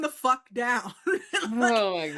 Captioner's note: laughs